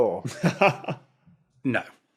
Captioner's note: chuckles